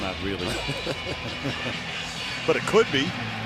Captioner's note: laughter